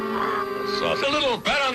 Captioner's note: bird squawks